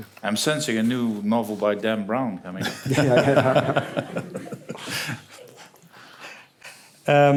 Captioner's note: laughter